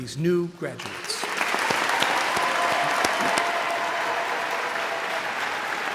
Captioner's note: audience cheering and applauding